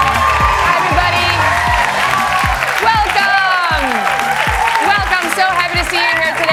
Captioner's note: applause